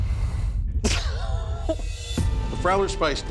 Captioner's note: laughter